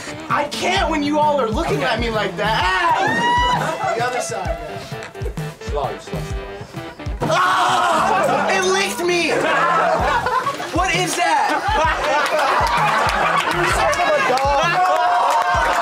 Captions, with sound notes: - I can't when you all are looking at me like that. Ahhh It licked me! (laughing) What is that?